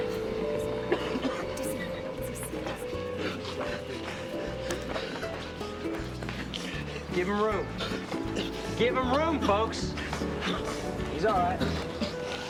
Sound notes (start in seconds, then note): 0.1 coughing; 3.9 gasping